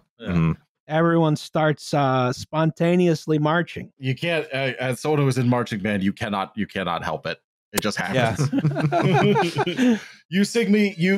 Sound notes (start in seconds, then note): 8.1 laughter